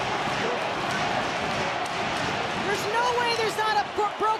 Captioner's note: audience cheering